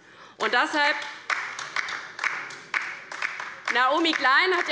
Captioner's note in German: Beifall